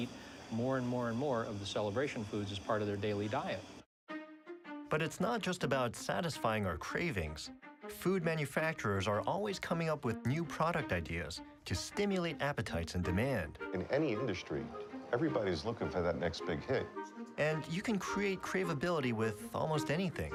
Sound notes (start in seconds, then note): none